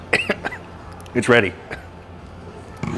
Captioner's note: coughs